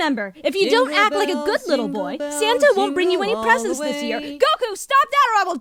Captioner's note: quietly